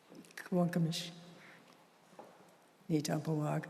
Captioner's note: non-english speech